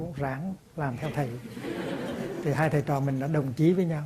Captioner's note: audience laughs out loud